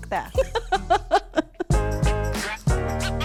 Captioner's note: laughing; upbeat music